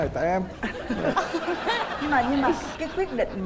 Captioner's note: laughing